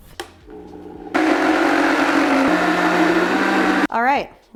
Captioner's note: machine whirring sounds